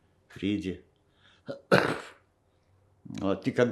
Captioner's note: coughing